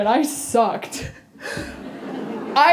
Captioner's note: laughter